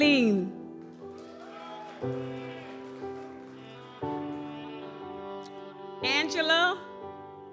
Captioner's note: gentle music continues; audience applauds